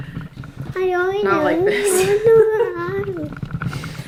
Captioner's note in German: lacht; singt